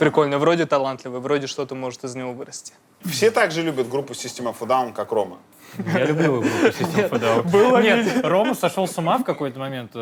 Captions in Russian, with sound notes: Прикольно. Вроде талантливый. Вроде из него может что-то вырасти. — Все так же любят группу System Of A Down, как Рома? (смеются) — Я любил System Of A Down. Нет, Рома сошел с ума в какой-то момент